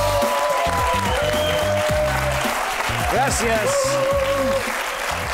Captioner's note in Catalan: aplaudiments